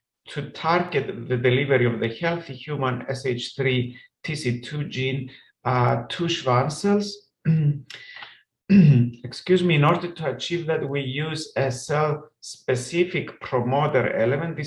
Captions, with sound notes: to target the delivery of the healthy human SH3TC2 gene to Schwann cells. (clears throat) Excuse me. In order to achieve that, we use a cell-specific promoter element.